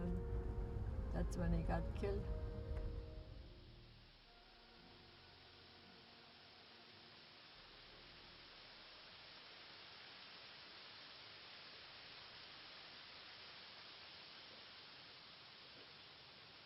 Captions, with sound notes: That's when he got killed. (gentle music) (leaves rustling)